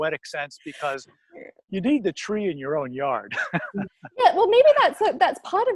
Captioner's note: laughs